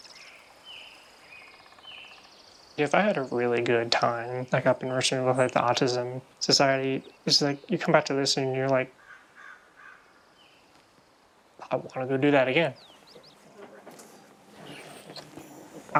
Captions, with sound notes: I miss them, so we all. (birds chirping) >>If I had a really good time, like up in Richmond with like the Autism Society, this is like you come back to this and you're like,